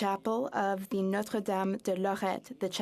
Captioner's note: speaking French